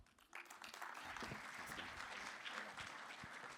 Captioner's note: applause